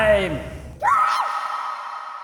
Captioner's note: scream